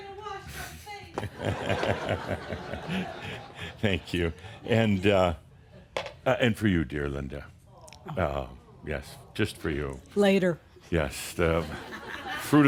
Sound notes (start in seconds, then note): 9.6 laughter